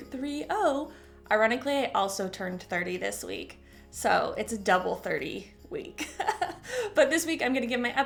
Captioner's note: chuckle